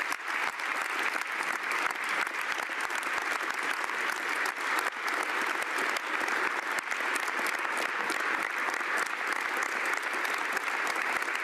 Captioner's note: applause